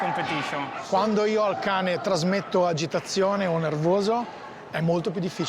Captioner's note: speaks in Italian